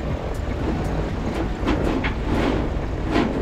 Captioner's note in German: Segel flattern